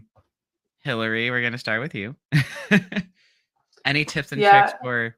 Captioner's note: laughs